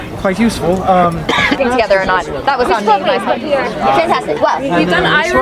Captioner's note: people chattering